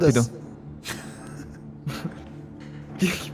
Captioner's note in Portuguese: riem